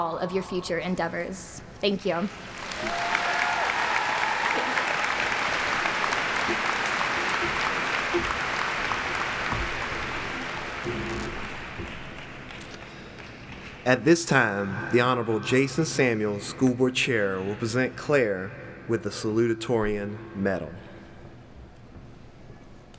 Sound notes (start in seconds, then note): 10.6 applauding